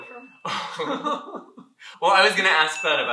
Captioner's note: laughter